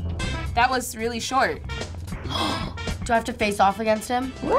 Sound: gasps

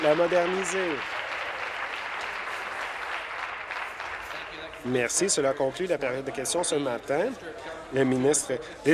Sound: applause

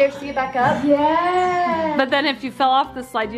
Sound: gasps

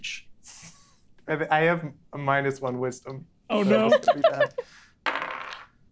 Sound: speaking faintly

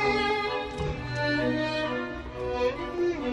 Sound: door closing; cinematic music

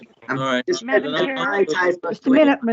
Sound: board members chattering

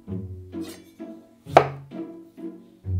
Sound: knife chopping

